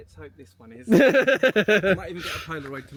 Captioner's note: laughing